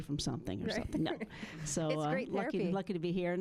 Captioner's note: chuckling